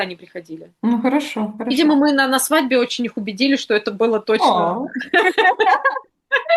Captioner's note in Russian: смех